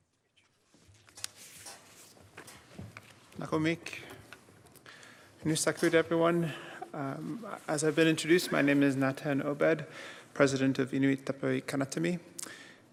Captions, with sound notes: [speaking Indigenous language] --everyone. As I've been introduced, my name is Natan Obed, President of Inuit Tapiriit Kanatami,